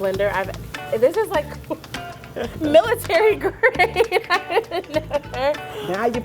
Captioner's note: laughs